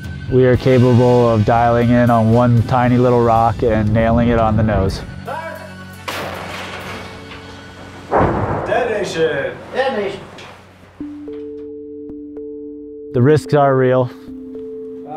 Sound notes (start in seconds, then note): 7.9 explosion booming; 11.1 light music